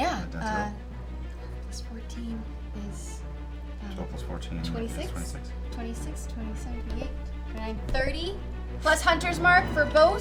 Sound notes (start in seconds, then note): none